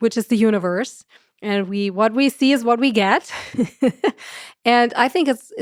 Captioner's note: chuckles